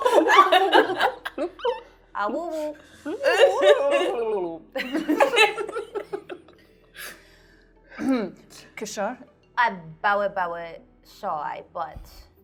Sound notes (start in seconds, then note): 0.0 laughing; 3.5 imitates underwater noises; 4.7 laughing